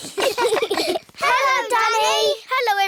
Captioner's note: all giggling